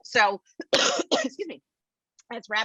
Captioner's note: coughs